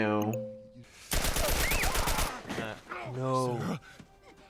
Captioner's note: gun firing